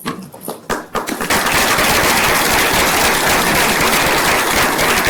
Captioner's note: applause